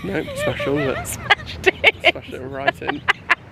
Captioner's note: laughing